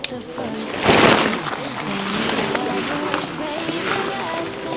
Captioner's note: hum